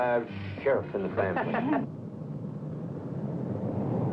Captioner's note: laughing